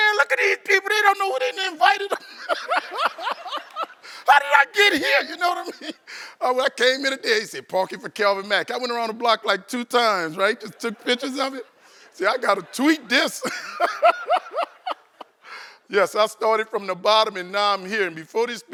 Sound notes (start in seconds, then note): 10.5 laughter